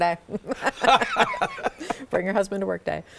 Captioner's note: all chuckling